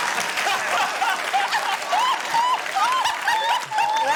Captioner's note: laughter continues